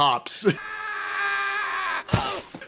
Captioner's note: yells